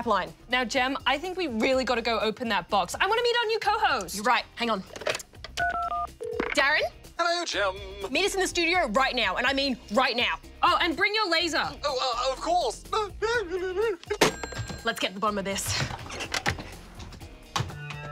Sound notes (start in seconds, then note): 13.0 chuckles